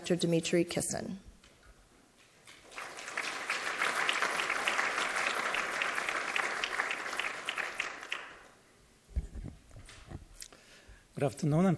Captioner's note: applause